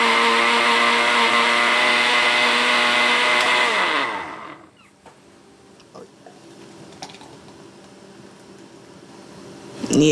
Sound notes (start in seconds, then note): 3.9 whirring stops